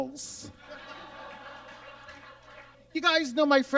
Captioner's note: audience laughs